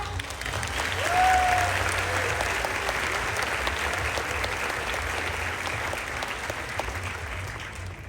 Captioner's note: applause